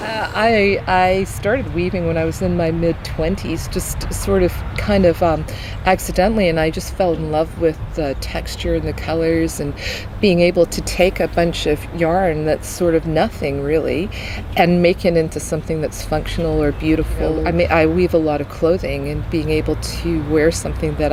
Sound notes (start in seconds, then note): 16.9 traffic sounds